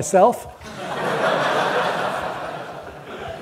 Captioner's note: audience laughter